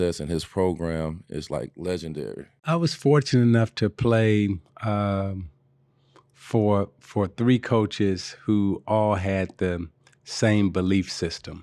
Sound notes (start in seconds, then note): none